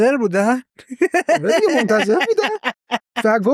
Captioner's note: laughs